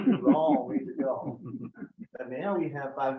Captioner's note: members laugh